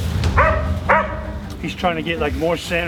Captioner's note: dog barking